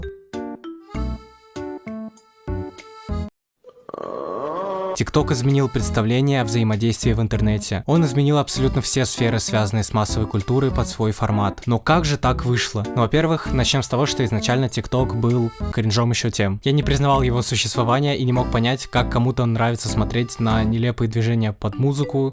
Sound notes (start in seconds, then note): 3.6 sounds of pain and awareness